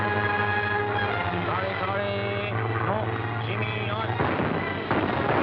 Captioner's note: speaking japanese